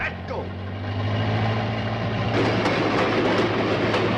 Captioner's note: engine revving